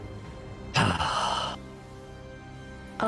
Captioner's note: deep sigh